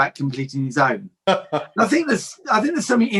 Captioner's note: laughs